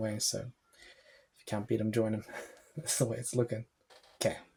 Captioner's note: laughs